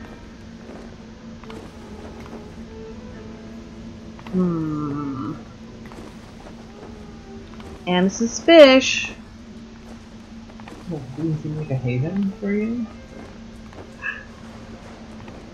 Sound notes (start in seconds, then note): 8.9 suspicious